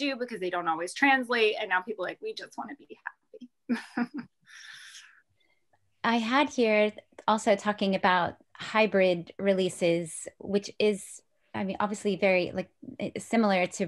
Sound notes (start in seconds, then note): 3.6 laughs